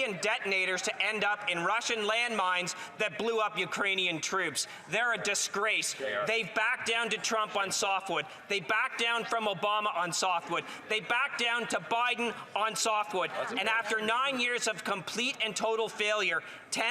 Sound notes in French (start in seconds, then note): 3.0 voix de l'interprète